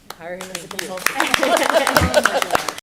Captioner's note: applause; laughter